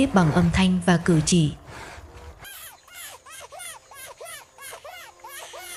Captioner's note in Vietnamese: khóc